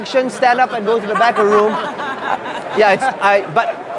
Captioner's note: laughing